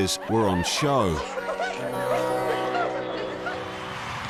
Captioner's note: giggling